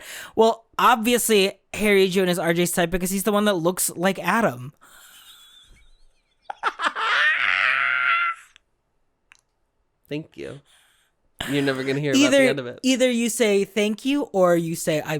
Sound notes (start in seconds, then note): 6.9 cackling